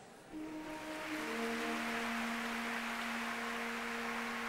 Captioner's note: applause